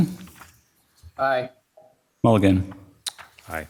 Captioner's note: pat